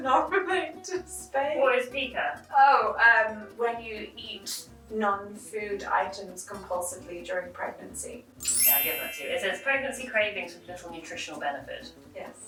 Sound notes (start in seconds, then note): none